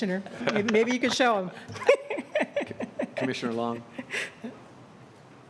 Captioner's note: laughter